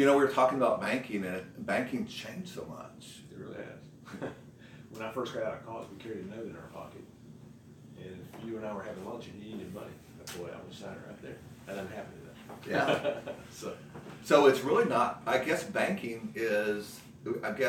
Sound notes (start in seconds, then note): 4.1 laughs; 12.7 laughs